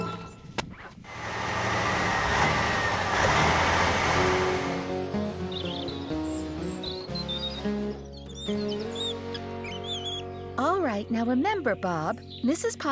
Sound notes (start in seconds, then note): 1.0 engine Running